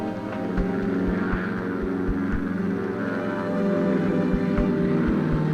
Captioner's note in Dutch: brullende helikoptermotor